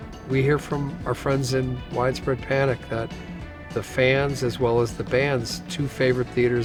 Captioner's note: none